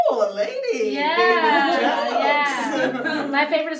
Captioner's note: laughs